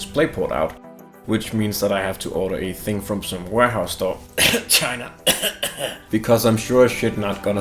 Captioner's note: cough